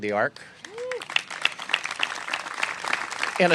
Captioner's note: applause